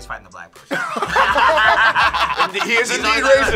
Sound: all laugh

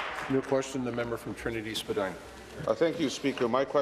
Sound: applause

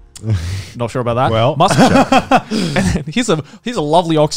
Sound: chuckling

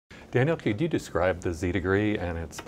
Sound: voiceover

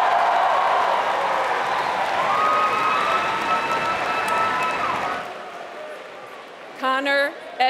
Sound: applause

